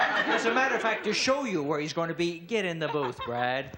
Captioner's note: laughing